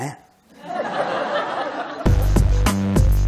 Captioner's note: audience laughs; upbeat music